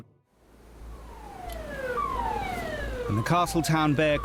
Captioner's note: siren blares